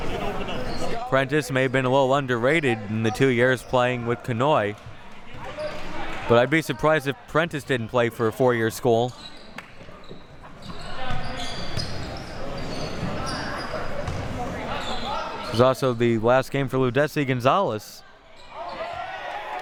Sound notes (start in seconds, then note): 9.8 audience chattering; 18.8 audience cheering